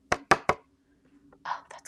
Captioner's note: paper thumping